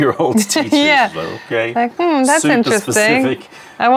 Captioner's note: laughter